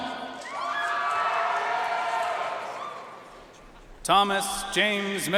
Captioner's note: audience cheering and applauding